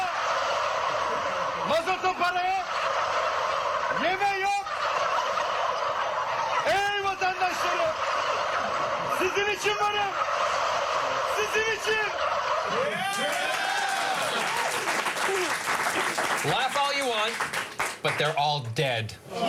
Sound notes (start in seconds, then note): 0.0 speaking german; 5.9 reactive gobbling; 18.4 applause